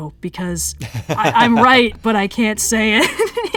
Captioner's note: laughs